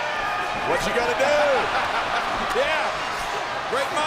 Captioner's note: laugh